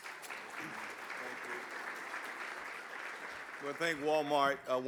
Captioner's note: audience clapping